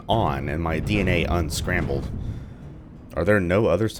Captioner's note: thunder